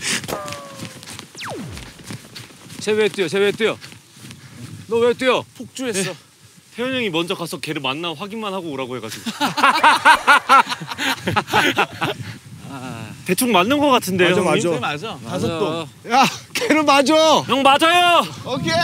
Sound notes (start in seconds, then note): 0.0 whoosh